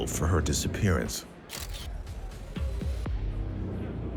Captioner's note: camera flashing; people chatting